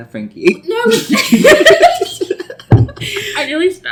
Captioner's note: everyone laughs